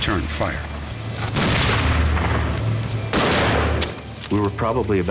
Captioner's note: gunshots